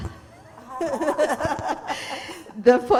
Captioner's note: laughter